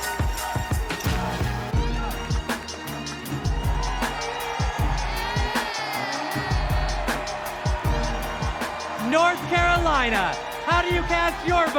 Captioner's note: cheers and applause